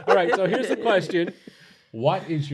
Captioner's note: laughter